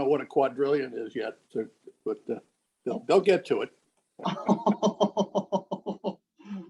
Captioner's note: man laughs